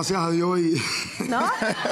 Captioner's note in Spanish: Ríe